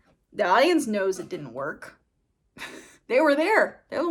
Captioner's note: laughs